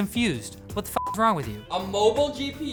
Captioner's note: beep